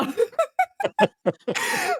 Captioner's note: both laughing